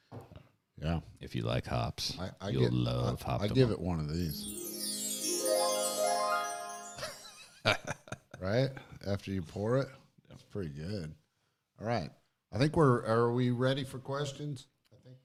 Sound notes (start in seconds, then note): 4.2 chiming music; 7.3 chuckles